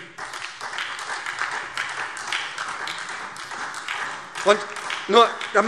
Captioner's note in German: Beifall SPD und vereinzelt Freie Demokraten